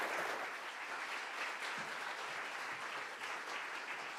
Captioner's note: applause